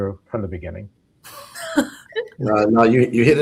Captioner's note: laughs